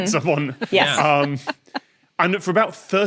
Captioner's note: chuckles